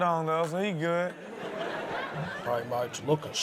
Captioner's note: audience laughs